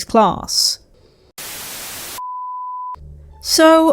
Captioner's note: static